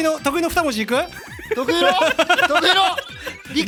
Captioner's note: giggle